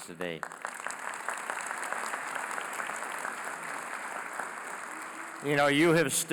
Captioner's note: applause